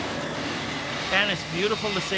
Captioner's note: flames blowing